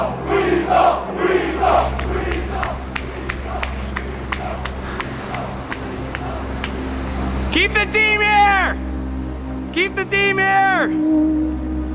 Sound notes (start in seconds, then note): 0.0 crowd; 4.7 panting